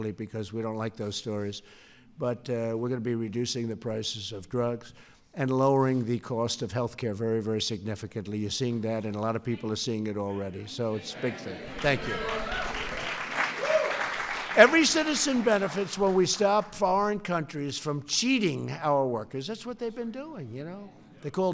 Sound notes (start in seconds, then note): 11.7 applause